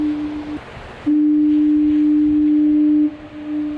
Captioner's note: foghorn